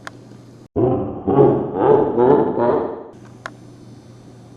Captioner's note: evil Laughing